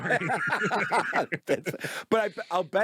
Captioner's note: both laugh